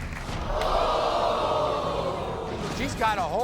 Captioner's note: crowd oohs